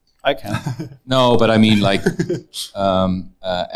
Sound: audience laughs

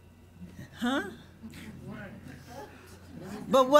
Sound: audience responds

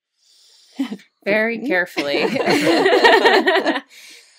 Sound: takes a deep breath

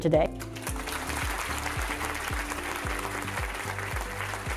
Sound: audience applause

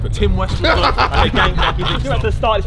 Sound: laughs

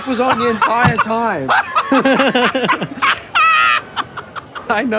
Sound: laughs; both laugh

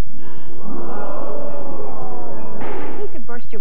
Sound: popping sound

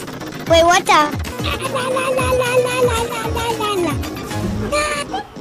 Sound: child babbling excitedly

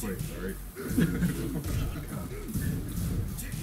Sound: laugh

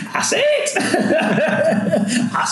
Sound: laughing

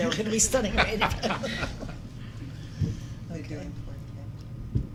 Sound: laughing

